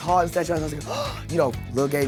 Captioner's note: gasps